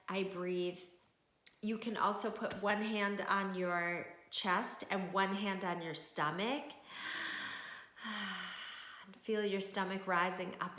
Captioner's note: deep breath